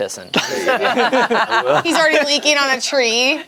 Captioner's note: group laughs